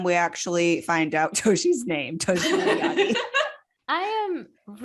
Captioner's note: laughs